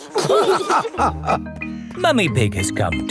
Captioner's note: all laughing